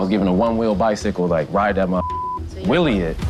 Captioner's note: beep